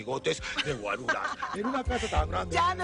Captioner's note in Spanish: Risas